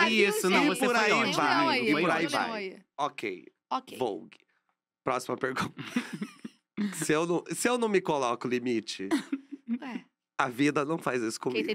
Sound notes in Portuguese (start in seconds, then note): 5.8 risos